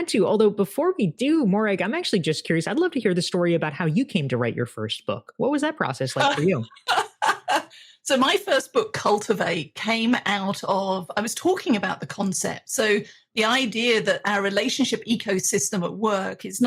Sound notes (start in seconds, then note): 6.2 laughs